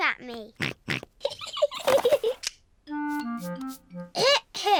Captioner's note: snorts; giggling